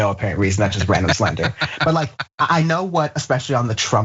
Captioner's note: laugh